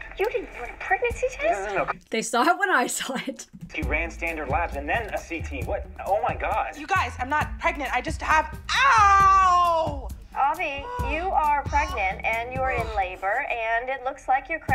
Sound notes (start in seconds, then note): 1.6 laughs